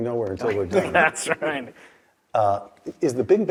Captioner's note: laugh